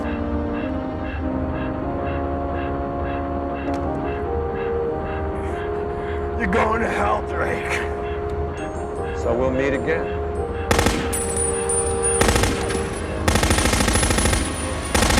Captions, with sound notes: - You're going to hell, Drake. - So we'll meet again. (machine gun firing)